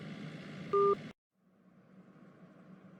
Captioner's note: phone hangup beep